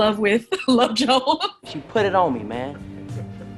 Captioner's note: laughs